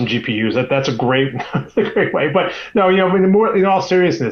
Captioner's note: laughs